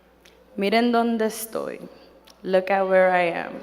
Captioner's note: speaking in foreign language